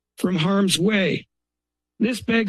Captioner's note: pause